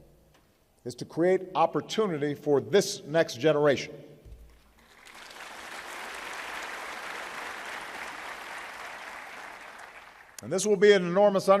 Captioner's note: applause